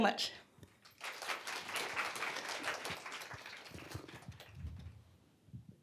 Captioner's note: applause